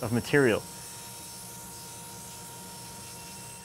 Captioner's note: saw buzzes